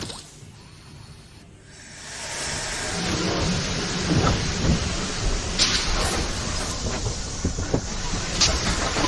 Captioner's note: the train starts